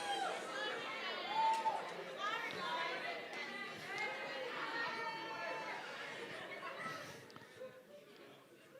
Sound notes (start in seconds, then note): 0.0 chatter in audience